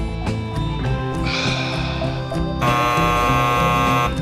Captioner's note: sigh